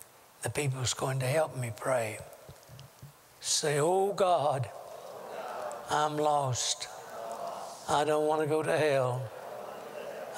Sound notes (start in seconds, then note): 3.5 audience repeats prayer throughout